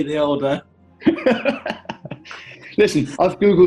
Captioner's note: laughing